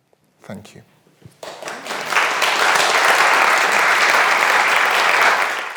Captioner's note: audience applauding